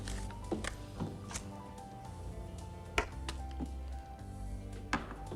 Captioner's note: lighter clicking; gentle upbeat music